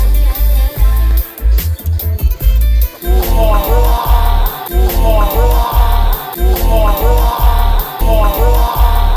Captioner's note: gasps of amazement